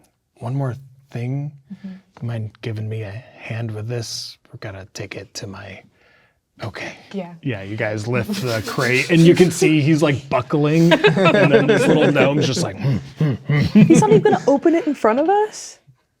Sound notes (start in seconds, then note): 10.6 players laughing; 12.6 grunting like a gnome